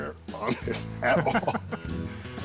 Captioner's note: chuckling